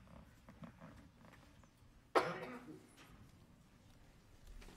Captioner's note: people chattering faintly